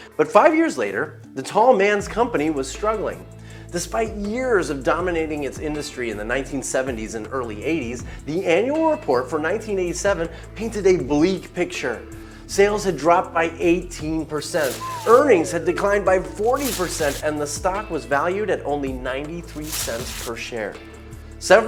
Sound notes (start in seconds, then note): 14.4 somber music; 16.5 whirling drop